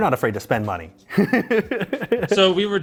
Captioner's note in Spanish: risas